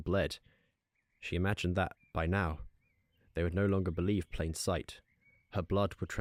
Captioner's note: none